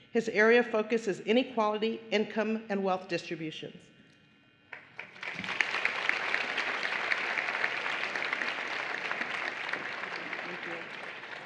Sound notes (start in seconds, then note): 4.7 applause